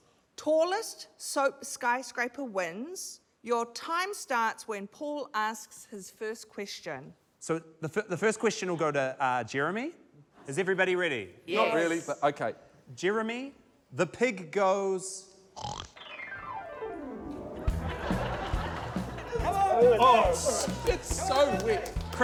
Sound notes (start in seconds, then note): 15.4 snorts; 17.6 comical music